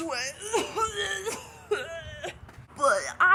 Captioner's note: dying cough